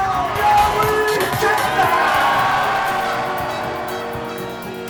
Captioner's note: cheering; upbeat music